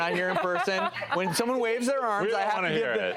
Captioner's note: laughs